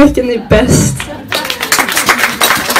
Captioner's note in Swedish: Applåder